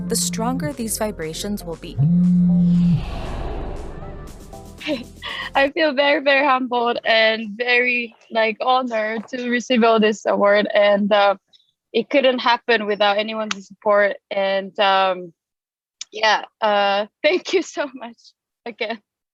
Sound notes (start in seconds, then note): 2.4 air swooshing